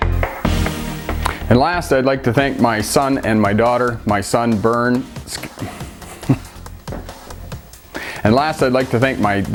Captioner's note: stuttering and laughing